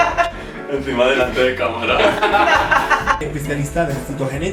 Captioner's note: they laugh; they laugh